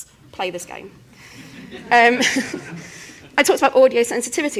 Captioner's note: laughter